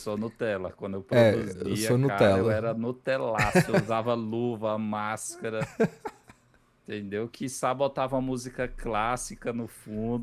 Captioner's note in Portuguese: risadas